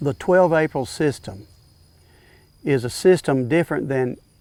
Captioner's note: background nature sounds